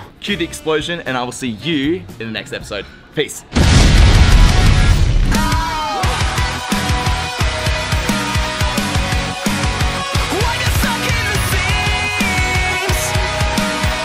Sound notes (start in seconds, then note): 3.5 explosion; 5.3 pop rock music